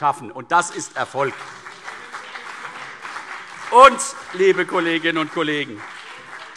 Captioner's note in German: Beifall CDU und BÜNDNIS 90/DIE GRÜNEN